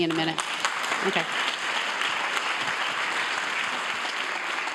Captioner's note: audience applauding